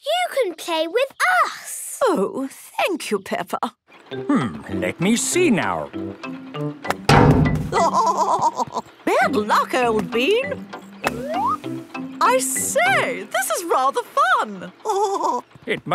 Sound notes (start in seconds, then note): 7.7 laughing